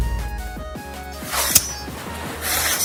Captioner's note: clink; shing